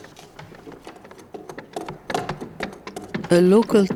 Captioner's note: tools knocking on wood